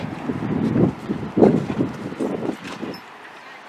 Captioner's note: wind gushing